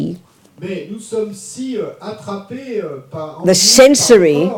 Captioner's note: audience member speaks in French